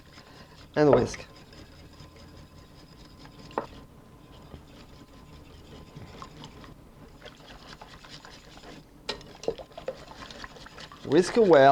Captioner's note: whisking sounds